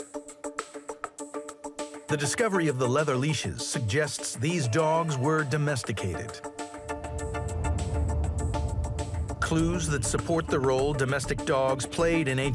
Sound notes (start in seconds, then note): 0.1 lively upbeat music; 6.4 wind whirls; 6.5 lively upbeat music